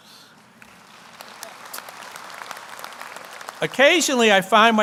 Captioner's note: audience applauds